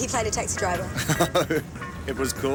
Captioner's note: laughing